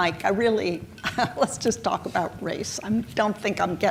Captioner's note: chuckles